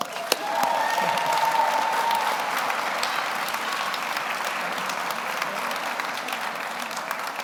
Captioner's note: audience applauds; audience cheers